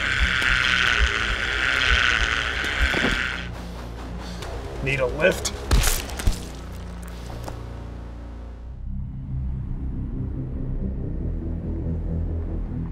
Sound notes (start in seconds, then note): 0.2 heart beating; 2.8 body falling to ground; 5.6 fleshy impact